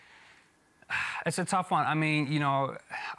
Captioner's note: sighs